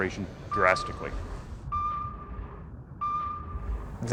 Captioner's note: sensor beeping